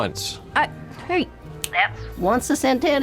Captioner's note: snaps fingers